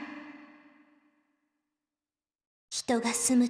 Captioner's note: silence